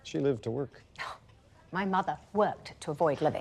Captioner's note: Prudence scoffs